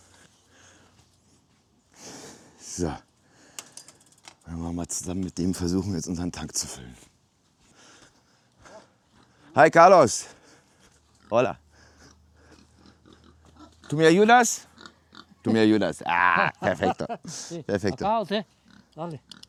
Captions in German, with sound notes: So mal zusammen mit dem versuchen jetzt unseren Tank zu füllen. Hi Carlos. Ha tu mir Jonas [schnauben] Tom Junas. Ah, perfekter [gelächter] perfekter.